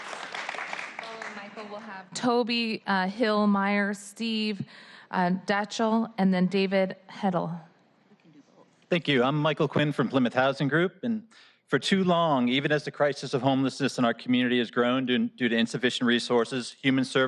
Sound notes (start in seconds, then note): 2.4 applause